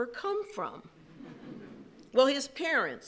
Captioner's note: chuckles